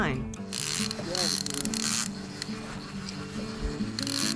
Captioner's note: reel grinding